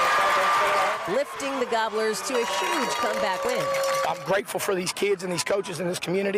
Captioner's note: cheering and applause